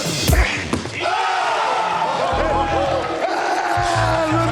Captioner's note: cheers and applause; screams